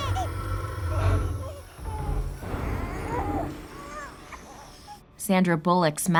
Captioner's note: baby crying